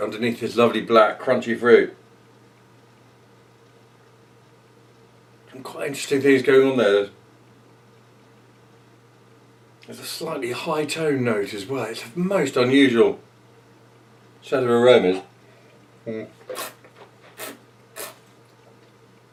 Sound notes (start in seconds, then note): 17.9 slurping